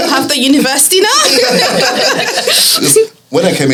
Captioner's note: laughs